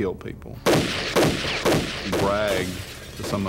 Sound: gunshots

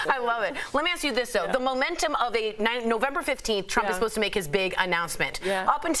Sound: laughter

